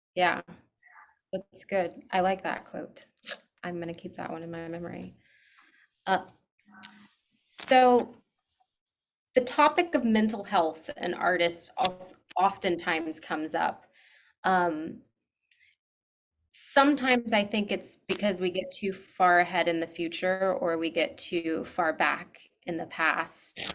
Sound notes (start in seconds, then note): 3.3 clicks tongue